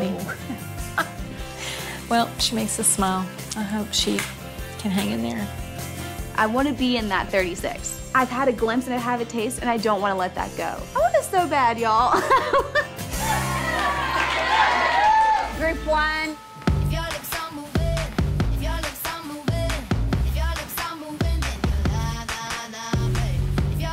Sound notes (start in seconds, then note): 0.2 laughs; 12.1 laughs; 13.0 all cheering